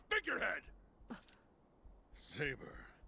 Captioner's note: Saber gasps